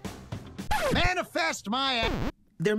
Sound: record scratch

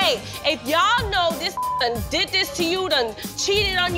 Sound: beep

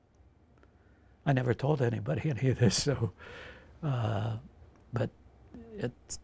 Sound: chuckles

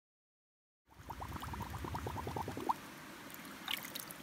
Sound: water bubbling

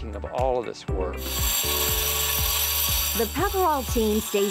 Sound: saw whirring

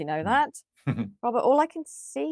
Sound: chuckles

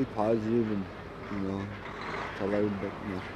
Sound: diesel engine rumbles

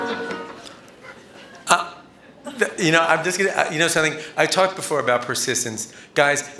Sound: laughter

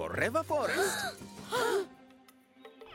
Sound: children gasping

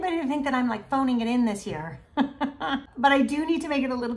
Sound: chuckles

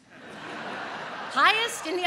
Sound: audience laughs

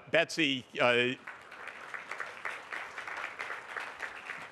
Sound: applause

